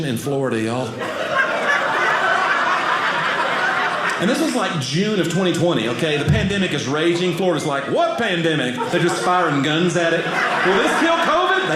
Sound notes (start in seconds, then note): 1.2 audience laughing